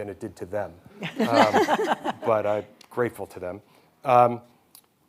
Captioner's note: hosts laughing